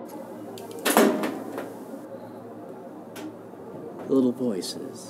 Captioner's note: metal clatters